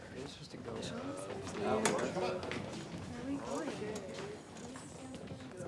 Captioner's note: students murmuring; students chattering